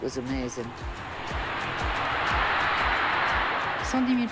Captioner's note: crowd roars